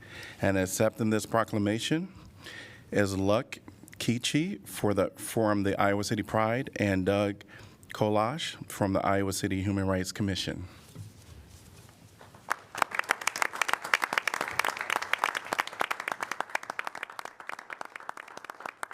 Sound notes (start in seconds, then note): 12.3 applause